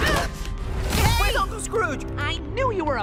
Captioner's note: all grunt